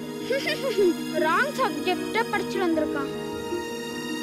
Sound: laughing

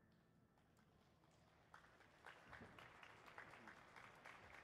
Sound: audience applauding

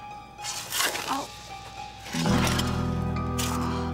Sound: groaning

